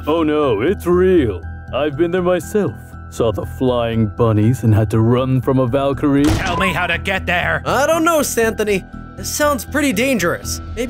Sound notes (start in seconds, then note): none